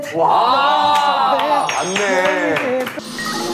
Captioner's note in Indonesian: Tepuk tangan dengan sendirinya